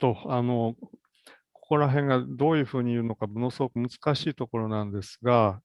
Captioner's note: speaks in Japanese